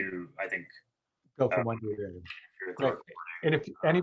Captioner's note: murmurs